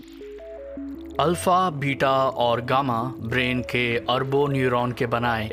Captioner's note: speaking mandarin